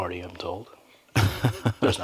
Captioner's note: laughter